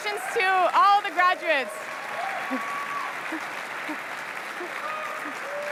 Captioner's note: applause